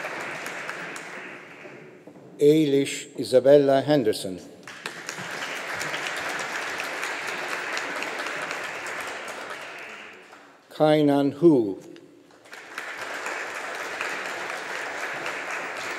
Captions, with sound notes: Eilish Isabella Henderson. (AUDIENCE APPLAUDING) Kainan Hu. (AUDIENCE APPLAUDING)